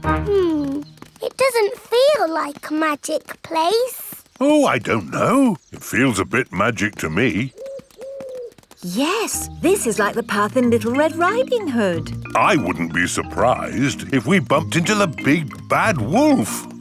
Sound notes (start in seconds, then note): 7.5 owl hooting